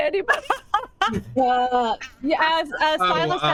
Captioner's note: cast members laughing